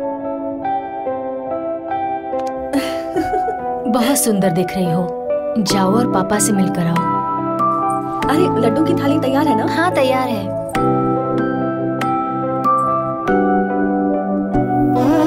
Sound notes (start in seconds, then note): 2.7 laughing; 7.6 tinkling; 10.7 anklet tinkling